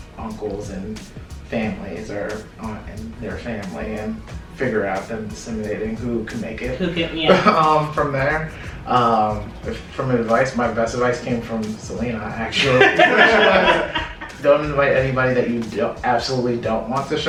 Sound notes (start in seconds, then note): 12.5 laughter